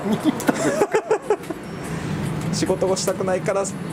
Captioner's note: laughs